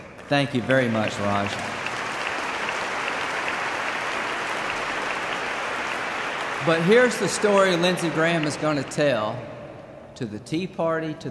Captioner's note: applause